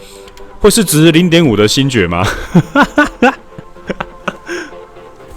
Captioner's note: hahaha